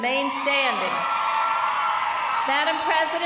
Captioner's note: applause